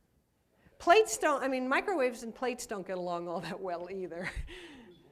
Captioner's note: laughs